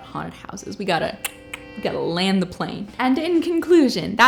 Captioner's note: clicks tongue